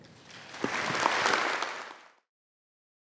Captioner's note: audience clapping